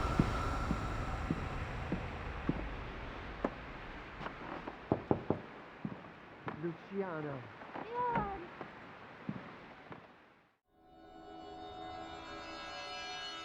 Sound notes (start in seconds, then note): 0.0 creepy wind; 3.1 knock; 6.4 door opens